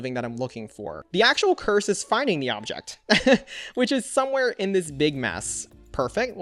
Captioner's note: laughs